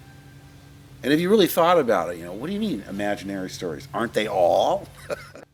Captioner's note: laughs